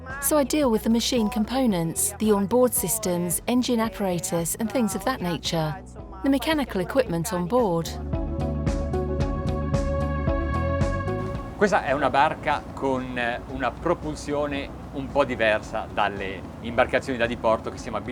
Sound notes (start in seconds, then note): 8.4 upbeat music; 11.8 man speaking in foreign language